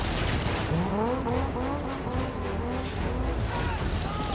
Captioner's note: engine revving